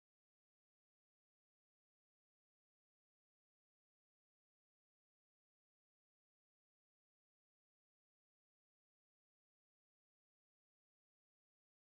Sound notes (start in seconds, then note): none